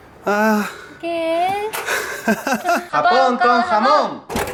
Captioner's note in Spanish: Risas